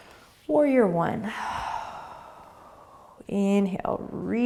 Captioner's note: exhaling